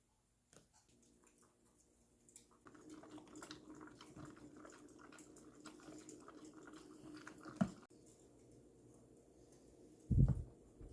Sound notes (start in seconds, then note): 4.2 the sound of Hill drinking water